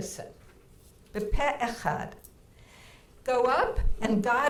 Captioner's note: speaking in foreign language